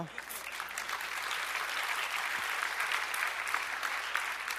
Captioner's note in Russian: аплодисменты